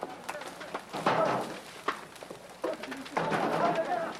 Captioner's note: men speaking in foreign language; fire crackling